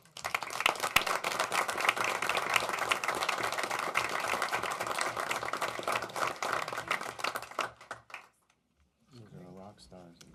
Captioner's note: applause